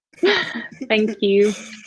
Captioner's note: laughing